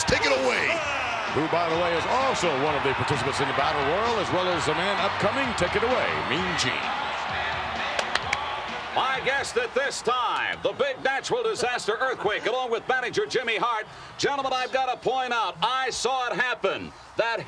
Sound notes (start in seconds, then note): 7.0 upbeat music; 7.9 hand slaps